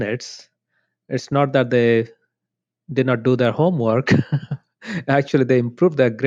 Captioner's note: laughs